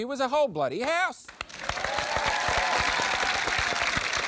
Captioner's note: cheering, applause